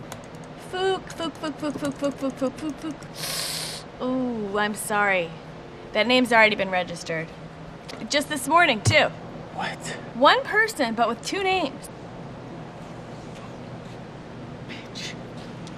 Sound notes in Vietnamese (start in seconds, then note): 3.1 xuýt xoa